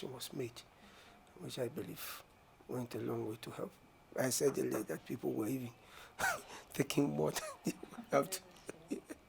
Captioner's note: laughing